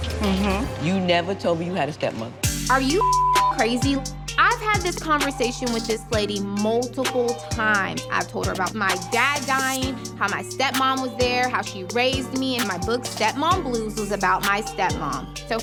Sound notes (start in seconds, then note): 2.7 beep